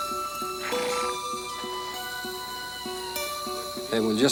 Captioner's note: horse snorts